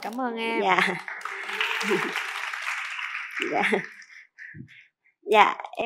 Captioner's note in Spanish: Aplaudir